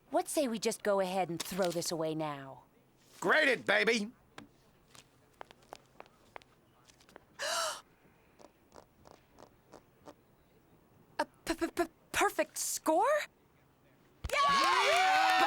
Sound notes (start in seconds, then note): 7.4 gasps